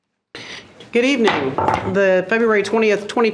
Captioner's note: gavel thumps